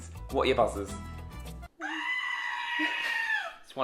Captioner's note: screaming